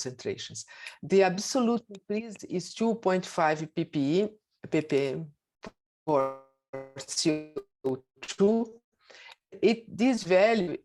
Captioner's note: audio distorts